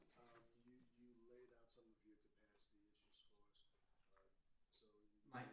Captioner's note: speaks faintly